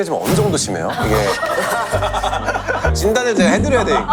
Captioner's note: laughing